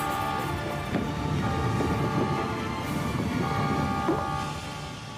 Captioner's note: metal clacking; wood rumbling; ball pops